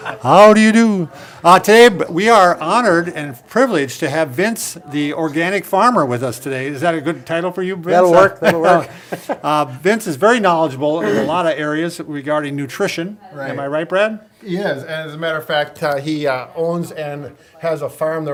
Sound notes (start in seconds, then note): 0.0 all laughing; 8.2 laughs